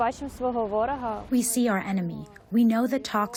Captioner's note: through translator